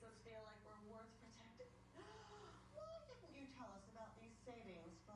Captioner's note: gasps